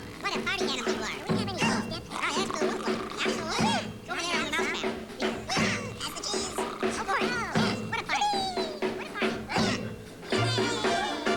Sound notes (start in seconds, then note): 2.9 snore; 3.9 party noises